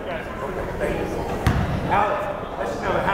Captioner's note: yelling